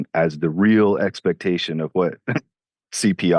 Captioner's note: chuckles